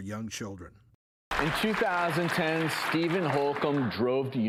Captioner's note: clapping